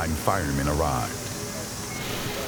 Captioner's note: water hissing